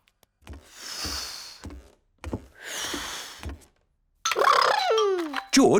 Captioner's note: blows; continues blowing; imitating engine revving